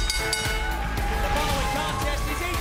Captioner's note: bell